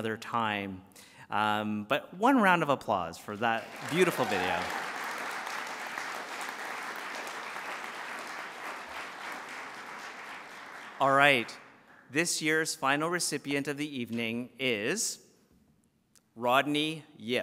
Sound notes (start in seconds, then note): 3.5 applause